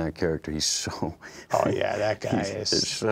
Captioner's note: laughing